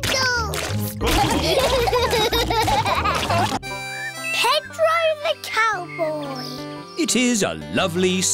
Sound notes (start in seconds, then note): 1.1 laughter